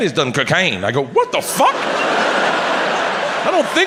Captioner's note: audience laughs